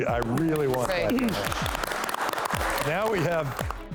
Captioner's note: clapping